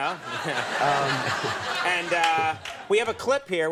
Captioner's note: crowd laughing